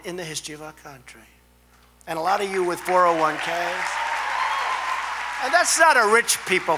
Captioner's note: applause